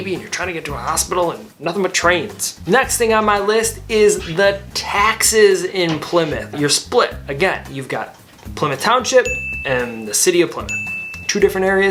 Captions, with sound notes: Havin' a baby and you're trying to get to a hospital? And nothin' but trains. Next thing on my list is the taxes in Plymouth. You're split again. You've got Plymouth Township (graphics ding) and the city of Plymouth. (graphics ding)